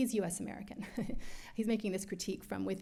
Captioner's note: laughs